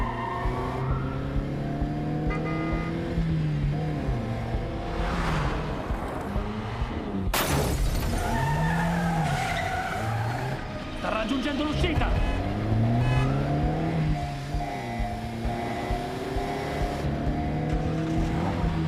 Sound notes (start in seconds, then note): 2.0 horn honks; 7.3 tires screech; 11.0 horn honking; 16.8 engine turns over